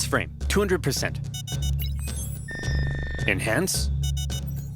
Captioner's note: beeping